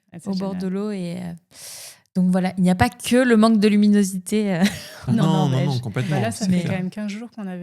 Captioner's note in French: grognement